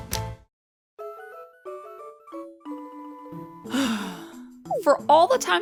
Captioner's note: sigh